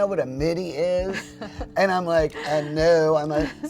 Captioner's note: laughing